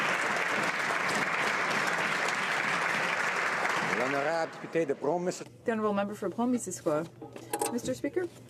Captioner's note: some Applause